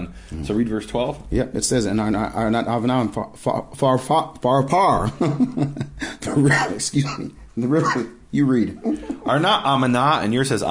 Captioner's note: laughing